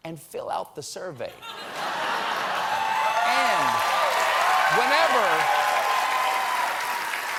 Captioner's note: cheers and applause